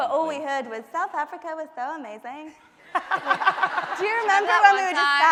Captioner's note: laughing